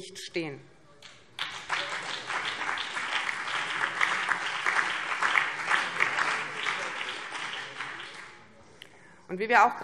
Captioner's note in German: Beifall BÜNDNIS 90/DIE GRÜNEN, CDU, vereinzelt SPD und DIE LINKE